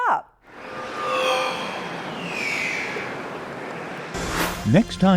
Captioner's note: sound Effects